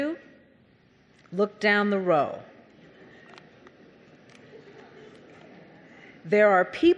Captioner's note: audience chattering